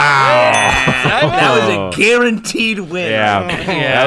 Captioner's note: bell ding